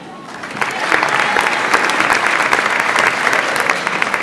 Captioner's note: audience applauds